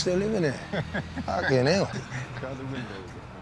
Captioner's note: laughs